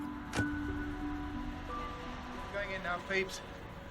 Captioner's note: car doors slam